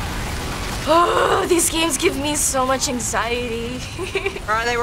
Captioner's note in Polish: jęczy